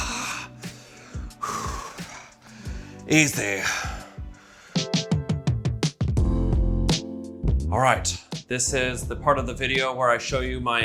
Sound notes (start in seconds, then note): 0.0 Chosen grunting; 0.0 Chosen exhaling; 4.8 relaxing rhythmic music